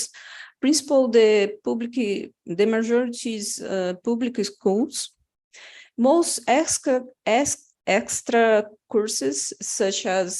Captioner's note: non-english speech